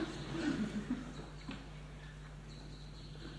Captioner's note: laughter